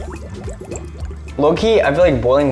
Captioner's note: bubbles rumble